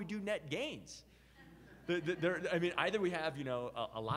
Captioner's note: audience members laugh